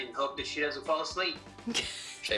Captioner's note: laughing